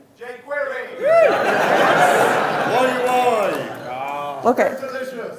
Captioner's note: audience laughing